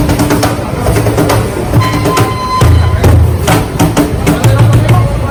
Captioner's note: drumming music; crowds speaking